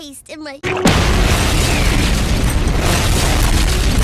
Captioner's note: 3rd Explosion